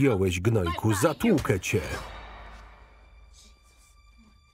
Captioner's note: loud thud